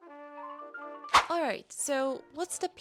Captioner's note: woosh